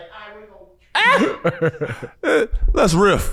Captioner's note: brother laughing